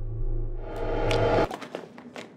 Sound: time start sound

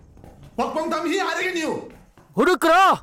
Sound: Malay Language

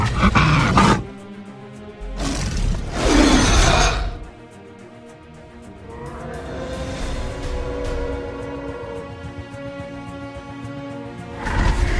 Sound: Carnotaurus Low Growls

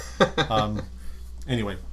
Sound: laughter

